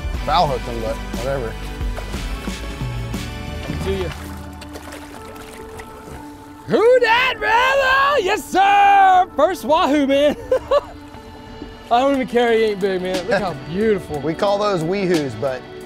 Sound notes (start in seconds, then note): 5.4 water sloshing; 10.2 laughing